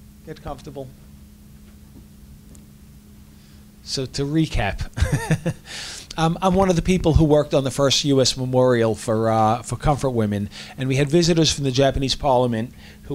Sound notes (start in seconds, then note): 5.0 laughs